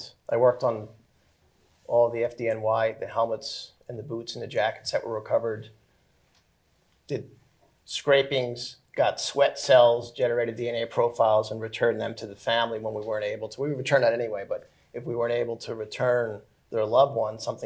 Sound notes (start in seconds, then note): none